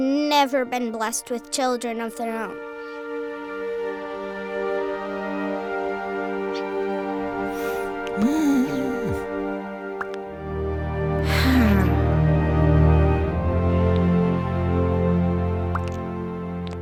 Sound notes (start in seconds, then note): 7.5 Abraham sighs; 11.2 sighs